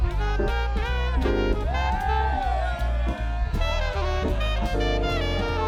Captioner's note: students cheering and screaming